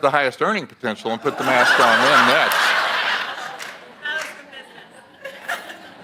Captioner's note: audience laughs